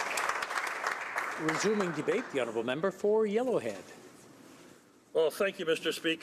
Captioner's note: applause